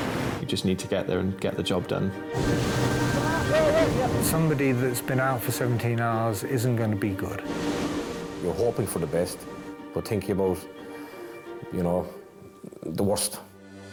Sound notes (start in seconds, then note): 4.0 gentle music; 7.8 gentle music; 7.8 waves roaring